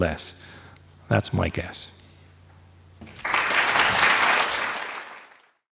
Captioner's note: audience applauding